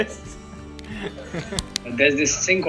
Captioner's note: laughing